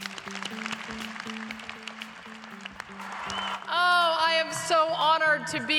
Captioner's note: applause